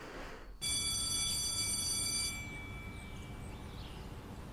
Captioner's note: school bell ringing